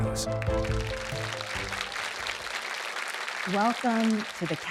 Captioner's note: audience applauding